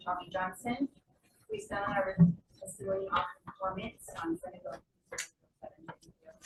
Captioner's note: faintly speaking